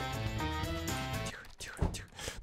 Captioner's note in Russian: Шёпотом